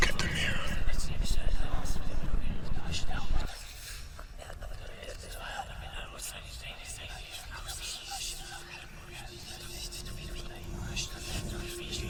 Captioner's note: whispering continues